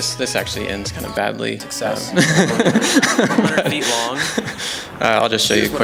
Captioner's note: laugh